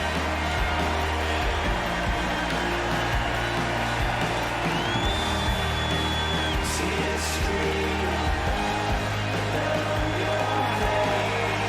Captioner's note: cheers and applause